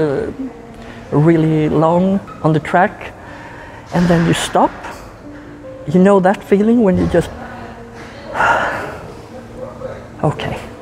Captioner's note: exhales